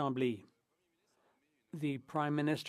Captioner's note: speaking French